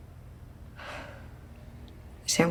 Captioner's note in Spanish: suspiro